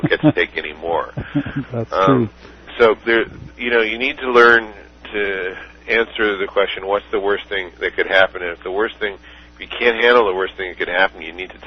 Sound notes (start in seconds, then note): 2.8 laughter